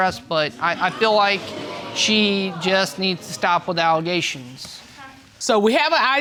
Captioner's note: audience exclaiming